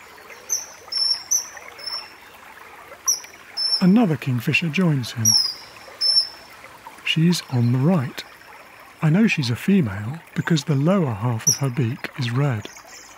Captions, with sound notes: [KINGFISHER CHIRPING] Another kingfisher joins him. [CHIRPING CONTINUES] She's on the right. I know she's a female because the lower half of her beak is red.